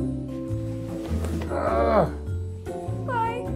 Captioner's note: exasperated groaning